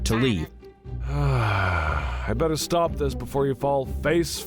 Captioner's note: sighs